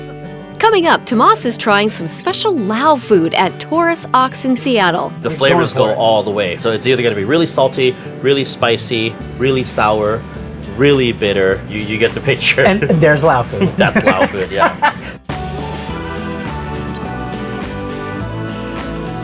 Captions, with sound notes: Coming up, Tomás is trying some special Lao food at Taurus Ox in Seattle. - The flavors go all the way. So it's either gonna be really salty, really spicy, really sour, really bitter. You get the picture? - There's Lao food. - That's Lao food. Yeah. [laughter] [gentle music playing]